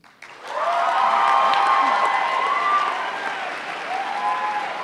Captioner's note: applause